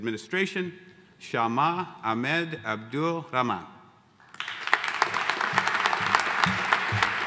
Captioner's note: audience applauding